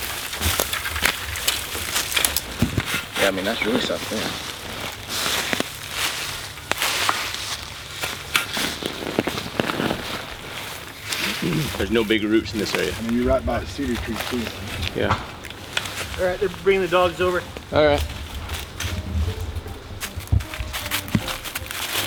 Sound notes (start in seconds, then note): 0.2 branches and dry leaves crackling; 5.9 sound of digging; 19.1 leaves rustling